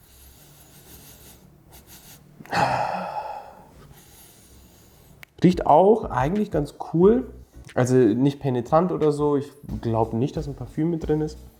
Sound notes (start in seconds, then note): 2.5 breathes out; 3.9 smells again